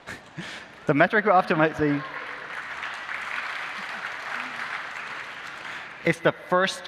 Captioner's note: applause